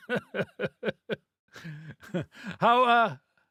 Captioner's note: laughing